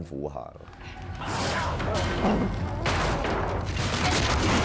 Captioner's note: both grunting